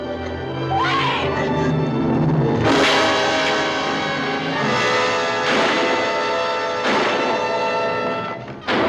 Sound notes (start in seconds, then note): 2.3 suspenseful music; 5.0 gun fires